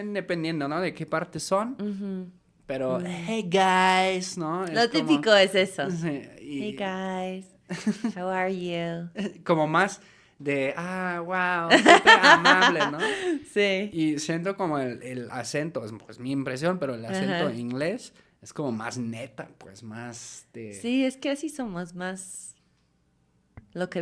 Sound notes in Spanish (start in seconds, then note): 11.7 risas